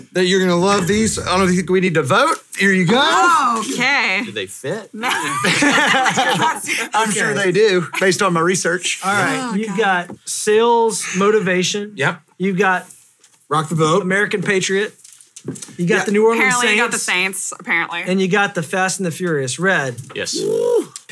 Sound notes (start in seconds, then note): 5.2 hosts laugh